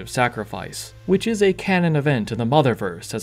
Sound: none

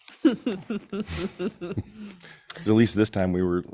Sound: board member laughs

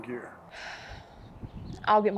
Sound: Amy sighs

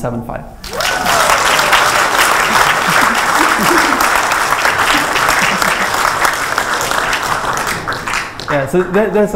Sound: AUDIENCE: Applause

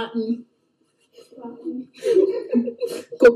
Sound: both giggling

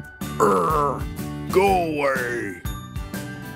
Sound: growls

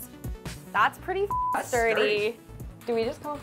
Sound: beep

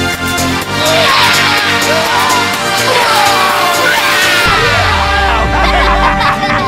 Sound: fake barfing noises; Dipper, Mabel, and Stan laughing

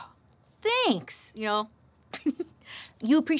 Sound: giggles

